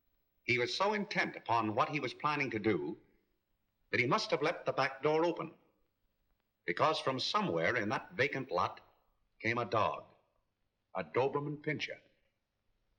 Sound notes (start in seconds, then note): none